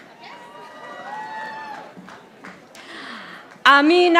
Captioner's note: audience applauding